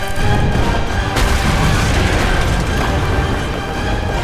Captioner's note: doors thudding; wall crashes; explosion booms; dramatic music